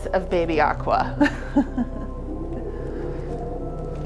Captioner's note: laughs; ethereal music